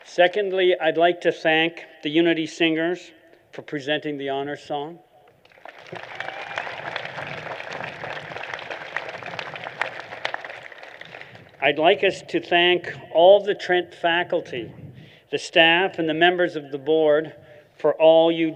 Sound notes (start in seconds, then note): 5.4 applause